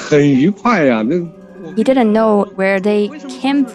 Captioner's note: speaking Mandarin Chinese